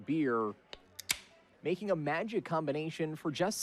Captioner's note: tab clicking